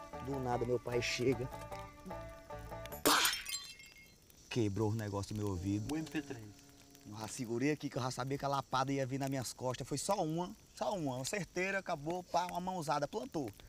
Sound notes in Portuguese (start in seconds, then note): 3.0 som de algo quebrando